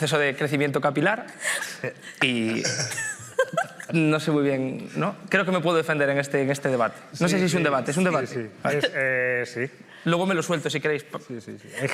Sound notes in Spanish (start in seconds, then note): 2.4 todos ríen